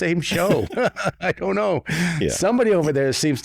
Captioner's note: chuckles